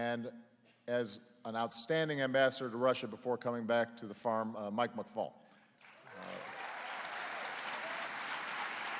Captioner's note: applause